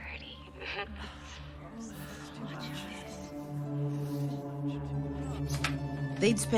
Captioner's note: moaning; hushed chatter